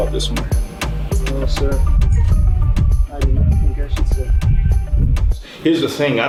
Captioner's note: faintly speaks